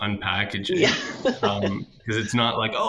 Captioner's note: laughs